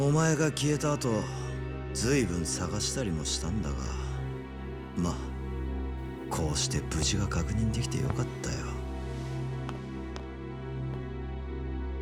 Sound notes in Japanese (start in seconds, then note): none